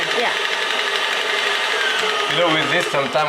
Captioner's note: whirring continues